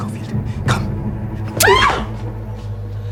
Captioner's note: slicing; foreboding music